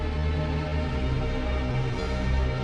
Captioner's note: none